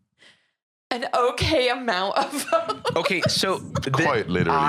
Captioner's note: laughs